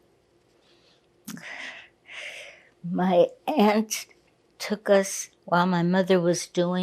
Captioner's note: sighing